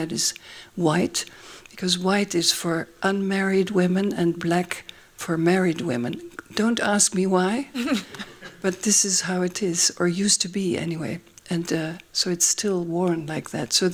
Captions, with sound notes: is white because white is for unmarried women and black for married women. Don't ask me why. [LAUGHING] But this is how it is, or used to be, anyway. And so it's still worn like that.